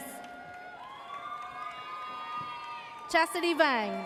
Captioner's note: audience cheers